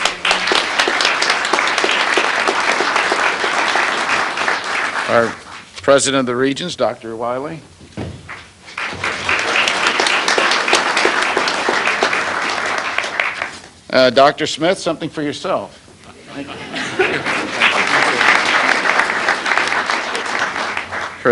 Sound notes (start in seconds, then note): 0.0 applause; 8.6 applause; 16.2 laughter; 16.8 applause